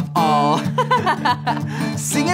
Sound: girl giggles

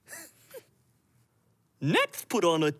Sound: chuckles

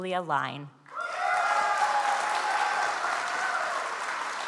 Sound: audience applauds

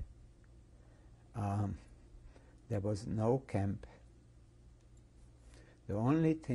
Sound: pauses for 3 seconds

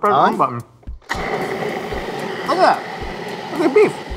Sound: food processor whirs

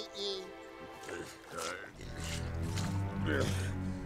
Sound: grunting

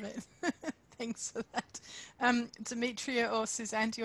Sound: laughs

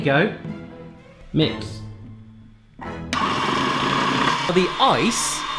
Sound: loud mixing noise

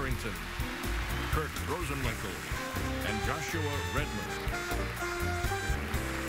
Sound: applause

